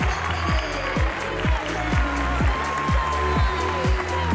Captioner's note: applause